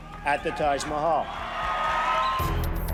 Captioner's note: cheers and applause